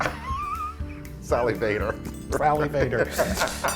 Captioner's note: laugh